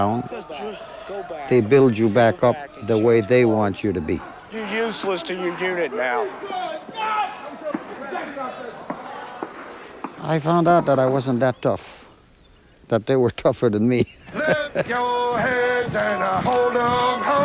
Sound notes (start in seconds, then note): 6.4 shouting in background; 13.7 singing